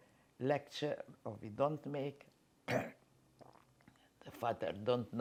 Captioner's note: coughing